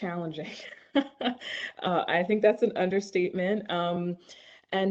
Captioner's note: laughs